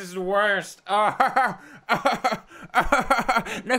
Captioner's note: Pewds laughs weirdly